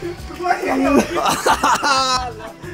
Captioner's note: guffawing